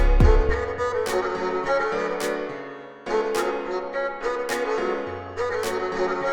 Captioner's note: claps